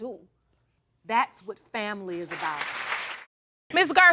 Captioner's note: audience applauding